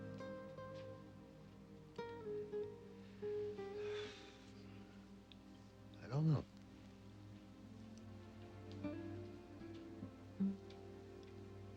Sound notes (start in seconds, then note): 0.1 somber music; 3.8 sighs